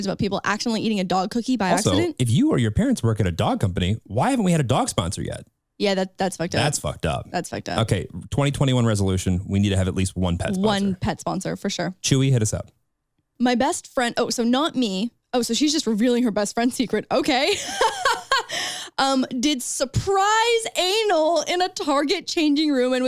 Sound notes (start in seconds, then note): 17.4 laughing